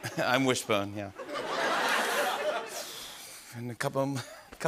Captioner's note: laughter